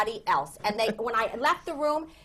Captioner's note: laughter